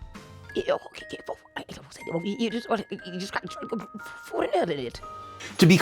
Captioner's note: grandma chatter intensifies